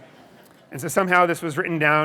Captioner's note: audience laughing